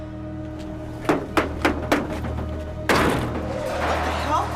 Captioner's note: knocking